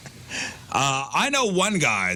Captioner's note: laughs